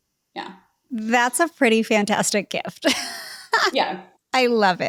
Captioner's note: laughs